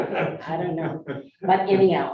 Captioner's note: group laughing